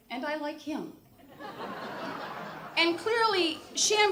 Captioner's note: audience laughter